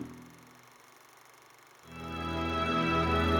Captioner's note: reel clicking